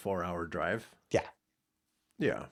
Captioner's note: blank Audio